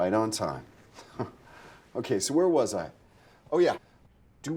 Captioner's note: scoffs